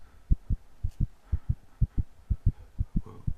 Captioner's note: escalating heart beats